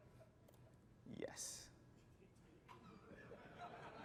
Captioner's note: laughter